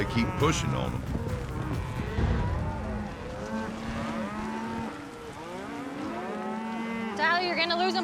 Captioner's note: cows mooing